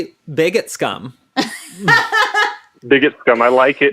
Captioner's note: laughs